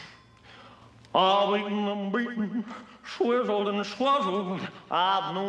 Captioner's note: imitating Elvis Presley